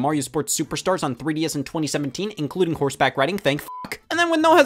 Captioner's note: beeps